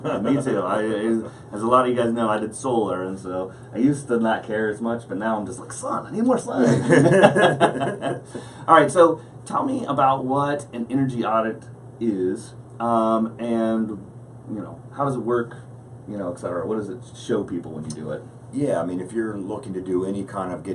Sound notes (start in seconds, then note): 6.6 laughing